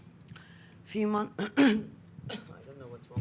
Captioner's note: clears throat